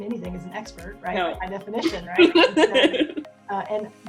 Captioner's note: laughs